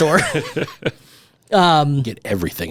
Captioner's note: both laughing